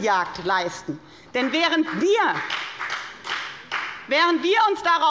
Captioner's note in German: Beifall bei der FDP